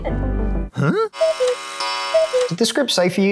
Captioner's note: alarm bells